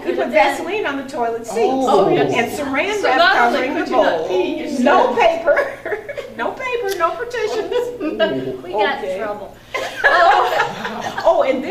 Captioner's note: all laugh